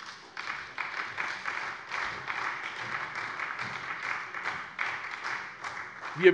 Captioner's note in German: Beifall bei der SPD